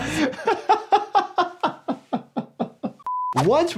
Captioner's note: continues laughing